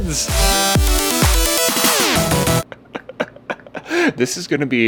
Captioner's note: upbeat music; laughs